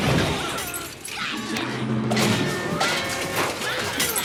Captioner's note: metal smashing